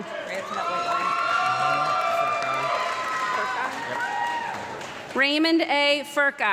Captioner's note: audience clapping and loud cheering